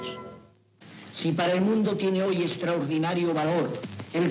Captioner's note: speaking Spanish